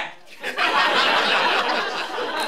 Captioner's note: laughter